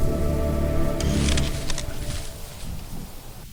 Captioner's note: stick snaps and bushes rustle